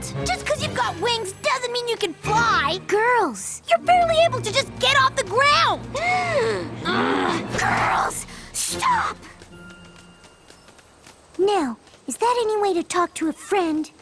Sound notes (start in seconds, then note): 6.0 horrified gasp; 6.8 growl